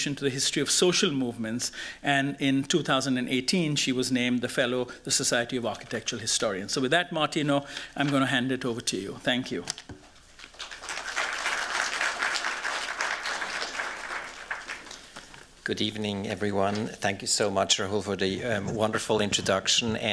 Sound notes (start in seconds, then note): 10.4 applause